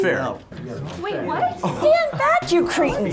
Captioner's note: group chattering